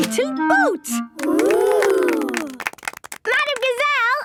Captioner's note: clapping